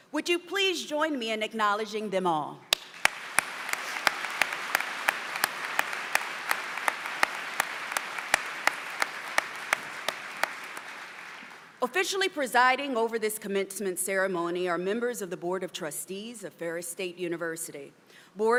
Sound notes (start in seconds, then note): 2.7 applause